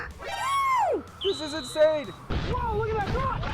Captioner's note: gasps; squeals